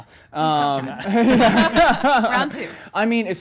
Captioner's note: laughs